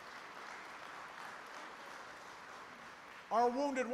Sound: applause

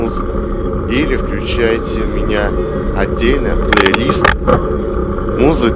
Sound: gear shifting

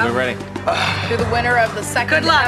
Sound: grunts

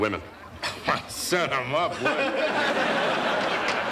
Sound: laughing

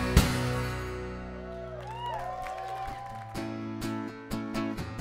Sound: applause

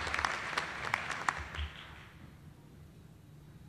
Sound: applause

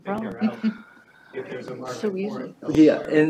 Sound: indistinct chatter

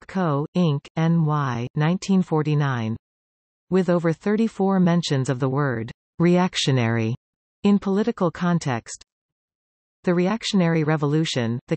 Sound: in German

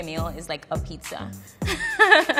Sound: laughs

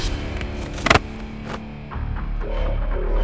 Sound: thud on ground

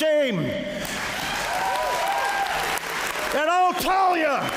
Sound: applause

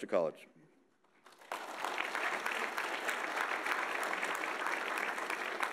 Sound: audience applauding

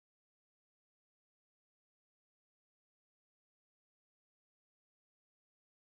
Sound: none

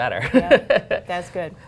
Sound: laughter

